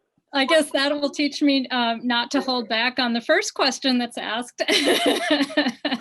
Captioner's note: laughter